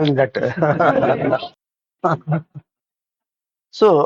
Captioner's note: laughs